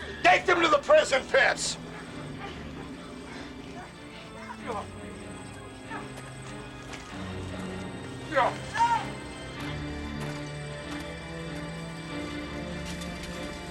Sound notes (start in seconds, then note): 8.6 people groaning